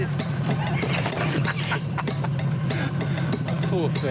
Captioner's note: laughs